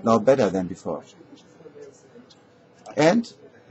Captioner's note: pause